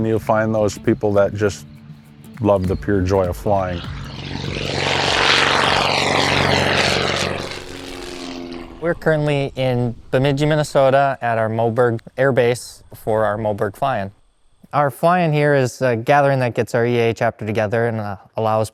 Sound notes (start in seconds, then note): 4.9 loud whirring of the airplane engine